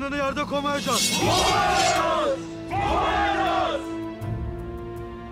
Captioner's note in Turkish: Hep bir ağızdan